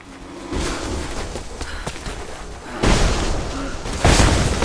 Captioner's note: debris crashing